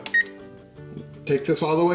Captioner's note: alarm beeps